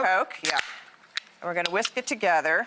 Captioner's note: can tab snapping